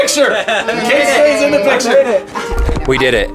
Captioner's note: laughing